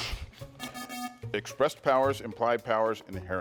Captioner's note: buzzer buzzes